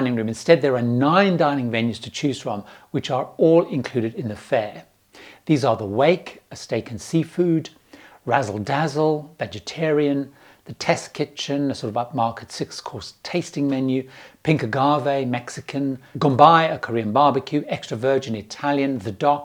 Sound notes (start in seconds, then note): 18.1 Italian